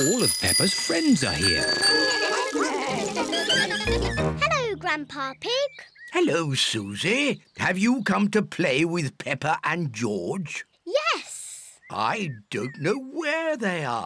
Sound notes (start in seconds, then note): 2.0 all chatter